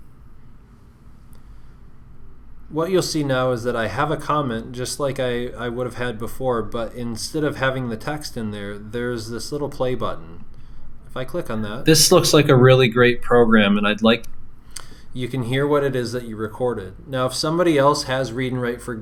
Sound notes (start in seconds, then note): 11.6 computer playing audio recording